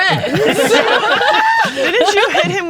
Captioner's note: all laughing